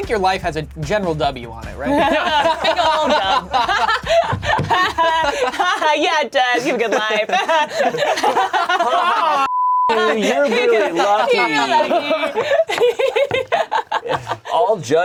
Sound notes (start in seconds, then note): 1.8 all laughing; 1.9 chuckles; 8.3 all laughing; 9.4 beep; 13.8 laughing